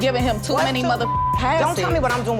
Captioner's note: beep